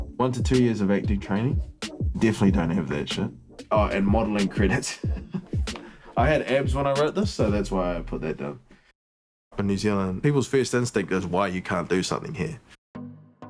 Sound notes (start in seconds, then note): 4.6 laughs